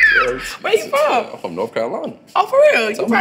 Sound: laughs

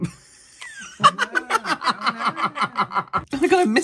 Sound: hitching Laughter

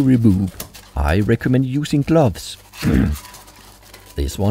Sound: ahem

